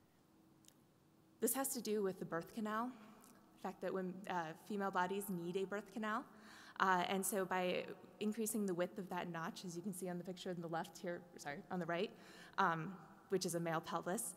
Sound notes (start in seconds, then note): none